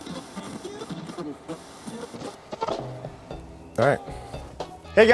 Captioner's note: radio static crackles